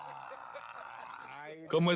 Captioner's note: laughs